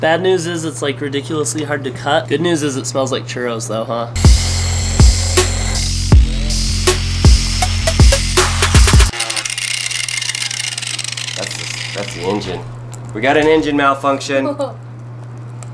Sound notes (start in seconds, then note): 4.2 hip-hop music; 4.2 electric whirring